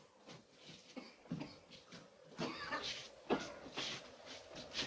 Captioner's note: Joss coughs